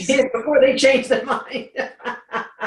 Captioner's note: laughs